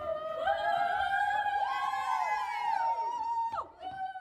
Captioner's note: dancers cheer